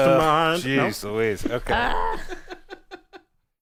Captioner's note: laughter